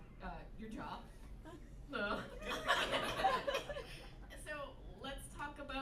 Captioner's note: laughter